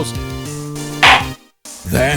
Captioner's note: gavel slams!